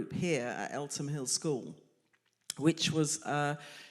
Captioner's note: none